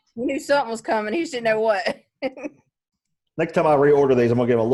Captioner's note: laughs